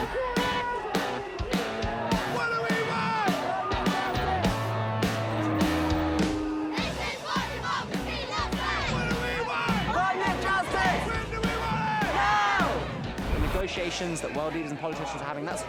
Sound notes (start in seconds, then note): 5.2 chanting; 5.5 horn blows